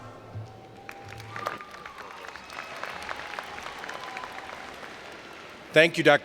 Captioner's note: cheering and Applause